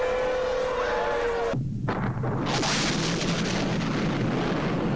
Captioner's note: air raid sirens; explosion